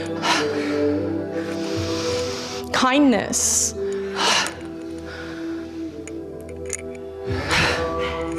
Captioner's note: snorts